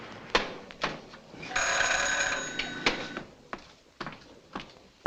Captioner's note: doorbell rings